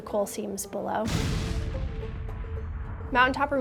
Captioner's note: dynamite explodes